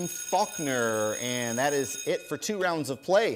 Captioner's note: bell rings